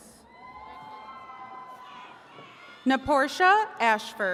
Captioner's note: attendees cheering